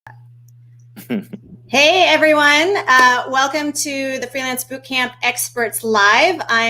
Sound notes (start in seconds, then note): 1.0 laughing